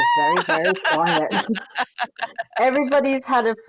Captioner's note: laughing